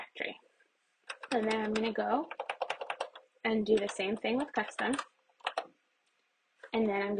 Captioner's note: keyboard keys pressed; more keys pressed